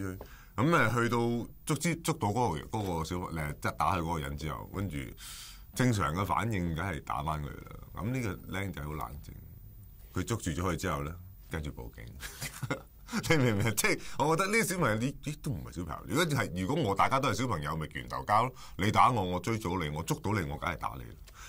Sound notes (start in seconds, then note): 12.1 chuckles